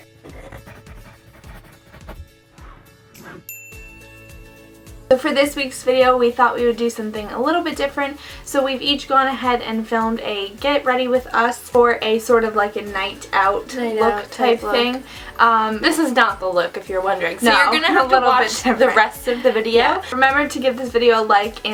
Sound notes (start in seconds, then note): 0.1 upbeat music; 3.4 chime